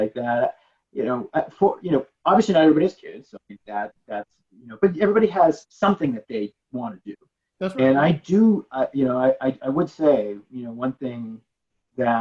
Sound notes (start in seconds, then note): 7.6 mumbling